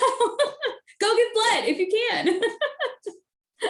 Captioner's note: laughing; laughing